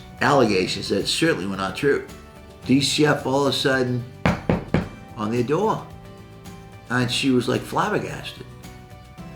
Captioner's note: knocking